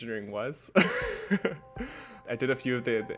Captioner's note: laughing